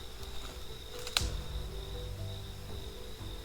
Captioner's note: twigs crackling; tender music